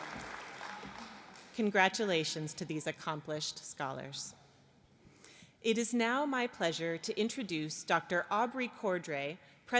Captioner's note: applause